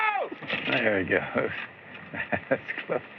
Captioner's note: chuckles